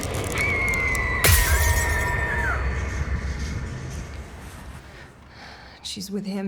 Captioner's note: Flora screaming; glass shatters